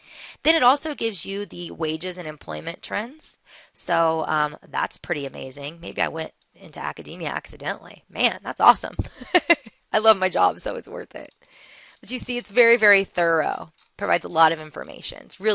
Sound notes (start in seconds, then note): 9.0 laughter